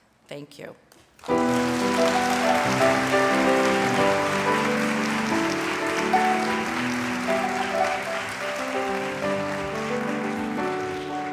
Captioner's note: applause and music